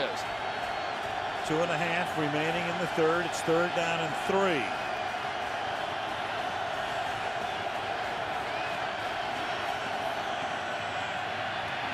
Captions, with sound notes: He really is. [cheering] 2 and 1/2 remaining in the third, it's third down and 3.